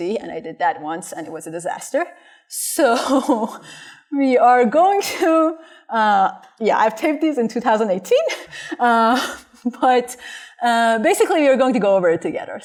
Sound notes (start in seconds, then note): 3.0 laughter